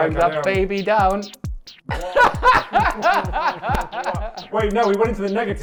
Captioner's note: laughing